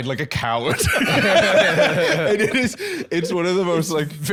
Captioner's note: all laughing